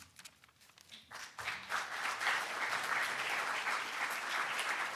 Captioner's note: audience applauding